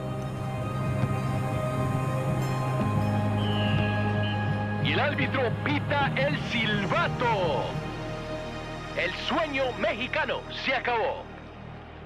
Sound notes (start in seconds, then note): 0.2 stirring music; 3.2 whistle blows